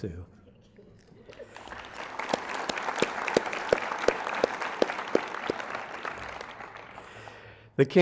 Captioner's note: applause